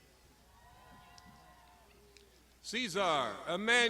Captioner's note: crowd shouting